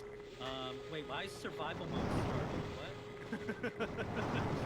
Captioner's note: laughter